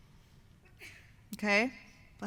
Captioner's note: sneeze